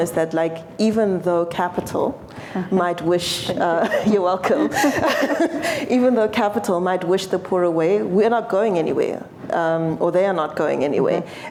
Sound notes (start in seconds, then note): 4.4 laughter